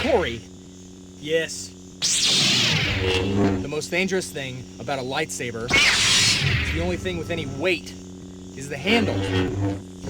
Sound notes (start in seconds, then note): 2.0 lightsaber ignites